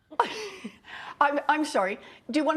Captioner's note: laughs